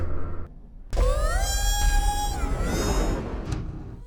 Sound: robot screams

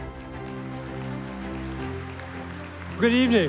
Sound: audience applauding

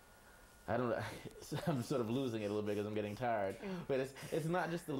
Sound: laughter

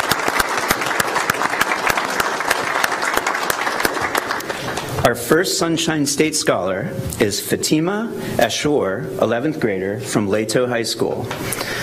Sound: applause

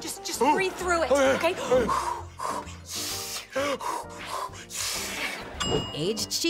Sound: deep breathing

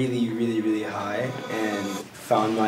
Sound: trippy whirring

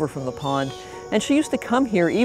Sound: bird calling

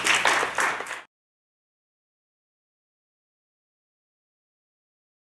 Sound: applause

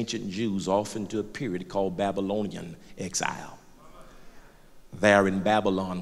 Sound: loud crowd agreement

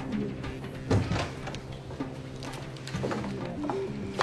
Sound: toilet door opens

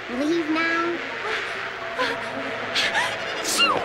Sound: sneezes

